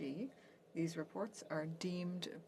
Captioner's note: speaking French